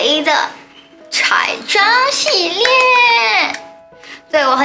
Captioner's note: claps